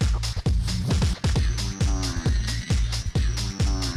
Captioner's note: none